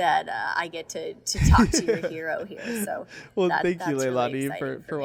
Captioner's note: Hyram laughing